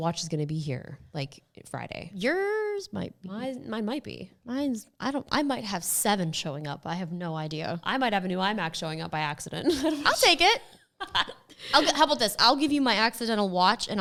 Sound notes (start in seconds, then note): 11.0 woman laughing